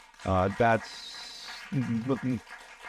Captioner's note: audience applauding